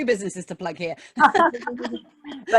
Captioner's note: laughing